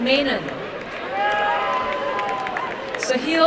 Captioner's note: applause and cheering